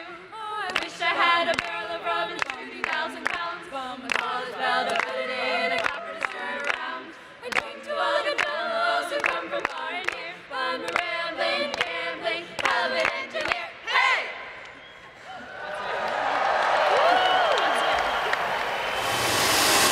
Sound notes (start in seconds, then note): 15.6 applause